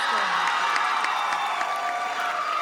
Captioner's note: audience cheers